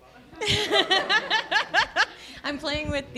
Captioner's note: laughing